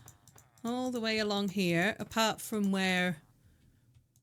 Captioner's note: none